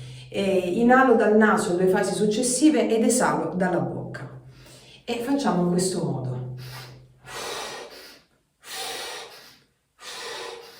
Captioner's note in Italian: sbuffare